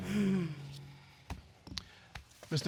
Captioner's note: sighs